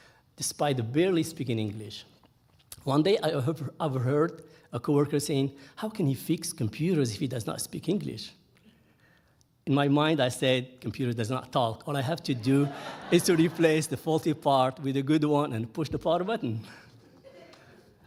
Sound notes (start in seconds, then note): 12.4 audience laughing